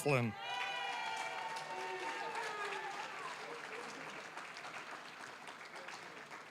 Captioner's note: applause, cheering; applause